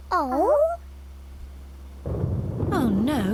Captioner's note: thunder crashes